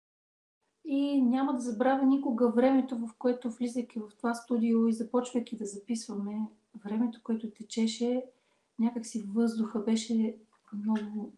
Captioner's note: foreign Language followed by English Interpreter